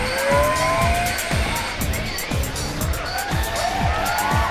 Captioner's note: buzzer ringing